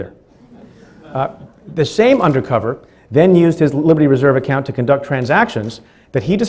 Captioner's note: laughing